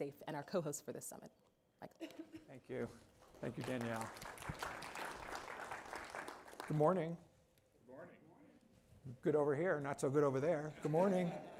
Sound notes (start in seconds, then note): 3.4 applause; 10.7 laughter